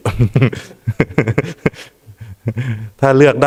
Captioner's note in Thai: เสียงหัวเราะ